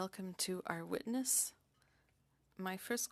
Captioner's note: speaking French